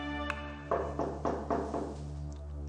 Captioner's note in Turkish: Kapı çalıyor